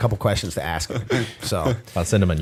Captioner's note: chuckle